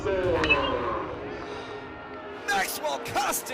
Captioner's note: bat ringing